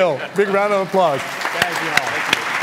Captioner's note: applause